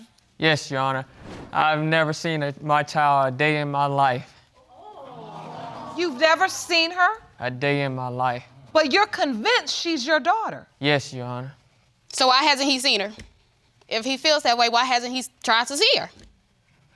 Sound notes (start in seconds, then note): 4.7 audience exclaiming